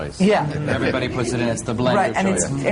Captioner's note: laughter